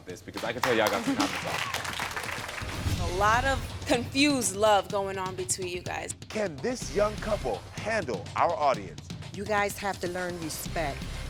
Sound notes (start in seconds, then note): 2.6 audience applauding